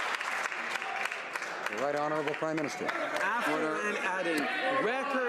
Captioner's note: some Applause